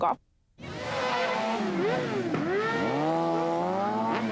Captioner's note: engine revs